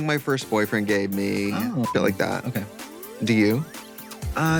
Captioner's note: beep